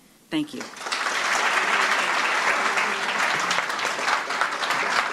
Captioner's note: applause